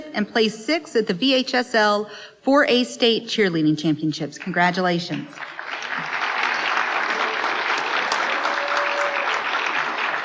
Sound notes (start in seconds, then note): 6.7 applause